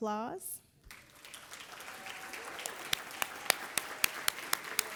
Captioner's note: everybody applauding